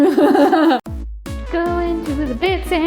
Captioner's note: laughs